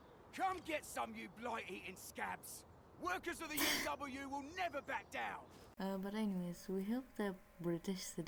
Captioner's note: laughing